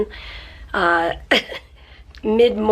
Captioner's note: chuckles